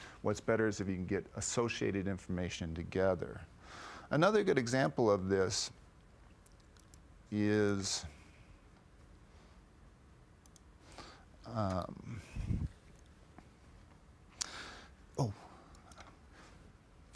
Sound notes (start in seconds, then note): 11.4 long pause